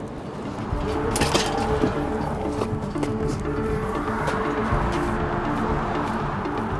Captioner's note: traffic droning; suspenseful music